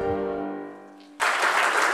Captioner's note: applause